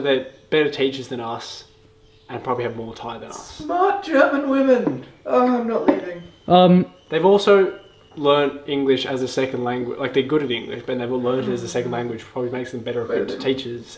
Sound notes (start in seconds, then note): 5.4 sighs; 13.2 foreign language